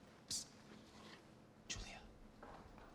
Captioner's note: whispering